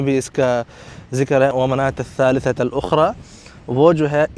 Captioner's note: Arabic